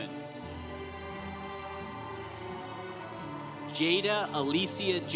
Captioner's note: congregation applauding